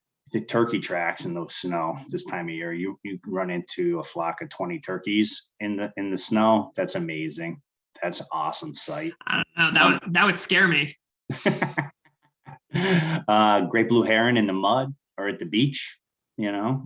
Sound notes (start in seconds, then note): 11.3 laughing